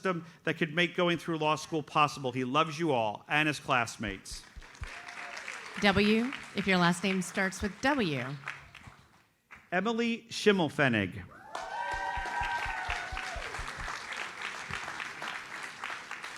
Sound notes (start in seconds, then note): 4.3 audience applauds; 11.3 audience cheers and applauds